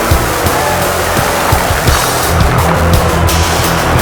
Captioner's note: sound of Booker T munching the shit out of Nash's apples